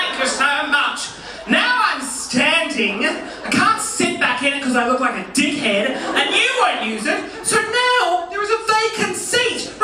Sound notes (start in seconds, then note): 1.2 resumes normal voice